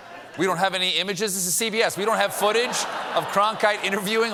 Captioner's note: laughter; laughter